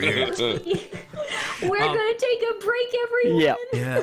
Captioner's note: giggles